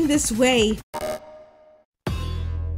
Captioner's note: Kingdom Hearts error sound effect